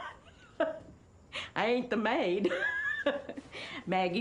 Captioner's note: laughs